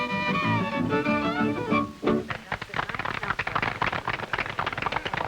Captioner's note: audience applauding